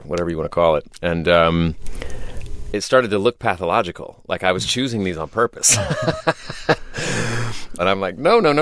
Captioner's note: laughter